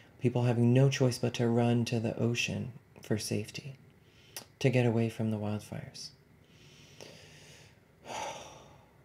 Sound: sighs

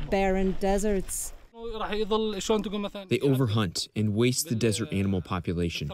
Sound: through translator

